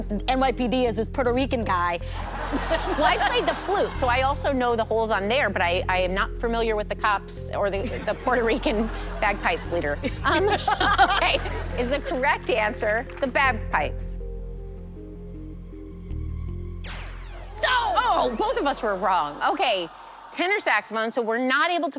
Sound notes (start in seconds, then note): 10.9 laughter; 16.8 zap